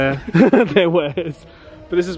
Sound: laughs

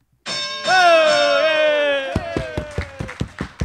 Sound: bell sounding; applause

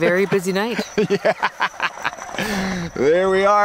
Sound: laughs

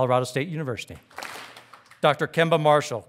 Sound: audience claps

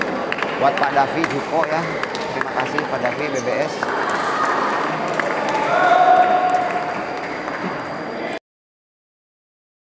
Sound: applause

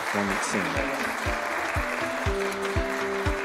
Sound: applause

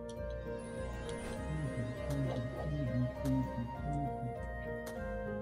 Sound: humming along

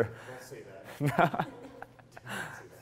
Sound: laughs

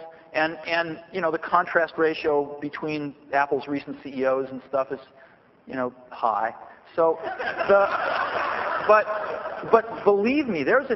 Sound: laughter

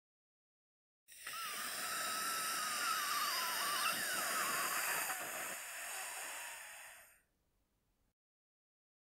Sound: sound of dying monster

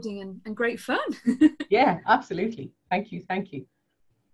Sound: laughs

